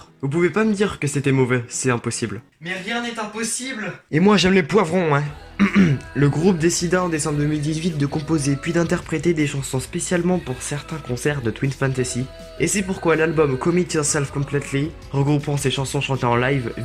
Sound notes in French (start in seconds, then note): 5.6 se racle la gorge